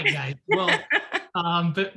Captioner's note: laughs